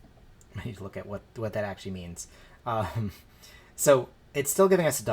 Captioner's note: chuckles